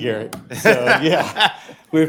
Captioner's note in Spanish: risas